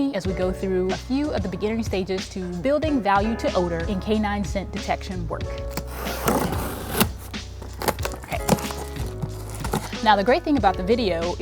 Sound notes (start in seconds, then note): 5.6 scissors scraping